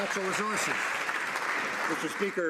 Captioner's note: some Applause